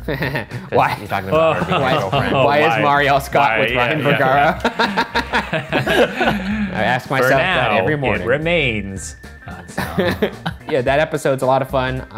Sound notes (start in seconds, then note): 0.0 laughs; 3.7 all laugh